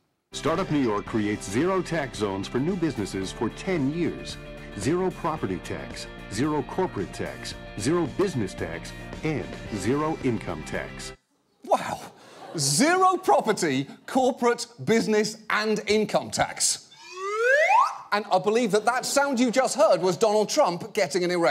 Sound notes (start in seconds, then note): 16.9 slide whistle ascending